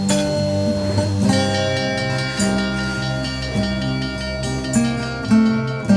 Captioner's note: train bell ringing